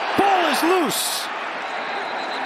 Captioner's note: whistle blowing